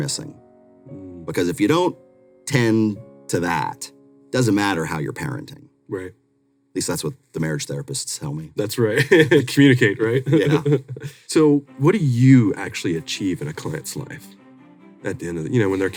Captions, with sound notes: is actually what a lot of people are missing. Because if you don't tend to that, doesn't matter how you're parenting. At least that's what the marriage therapists tell me. - That's right. (chuckles) Communicate, right? So what do you actually achieve in a client's life,